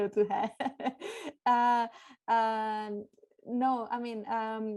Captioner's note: laughter